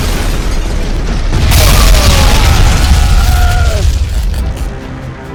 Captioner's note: explosions booming; men groaning